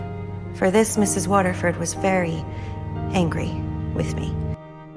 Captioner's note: voiceover